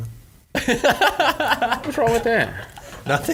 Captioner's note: laughing